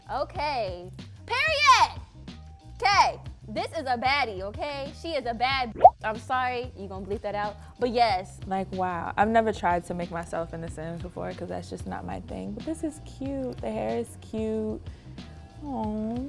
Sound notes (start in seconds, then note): 5.7 bloop